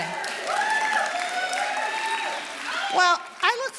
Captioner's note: audience applauding